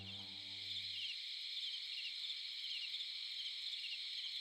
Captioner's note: crickets Chirping